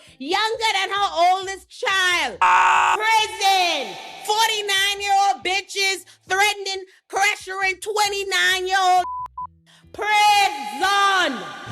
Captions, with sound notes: younger than her oldest child. (screaming) Prison! 49 year old bitches threatening, pressuring 29 year old niggas. Prison!